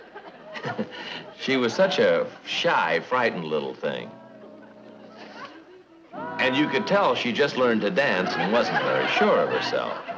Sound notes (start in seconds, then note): 0.5 Brad chuckling